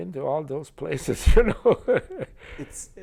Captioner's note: chuckles